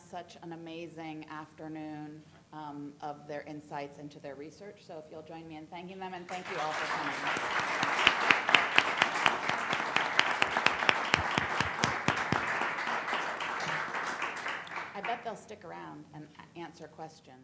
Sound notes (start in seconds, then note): 10.6 applause